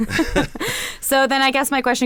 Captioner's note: laughter